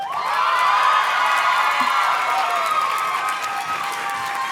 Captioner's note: audience cheers and claps